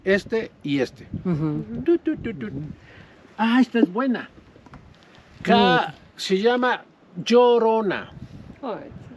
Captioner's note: speaking Spanish